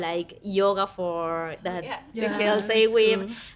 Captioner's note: women chattering